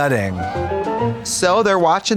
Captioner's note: bright chime